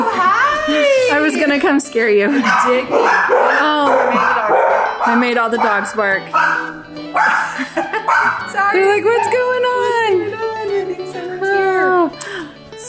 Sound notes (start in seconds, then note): 7.2 women 2 giggling